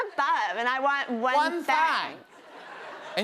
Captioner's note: laughter